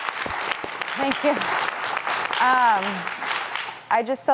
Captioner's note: audience applauding; laughs